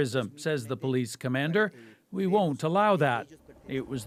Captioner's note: speaking alternate language